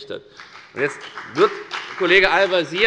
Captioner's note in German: Beifall bei der FDP